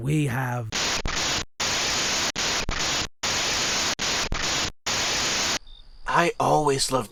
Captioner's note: crackling static plays once more